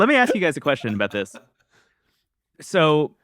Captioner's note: laughs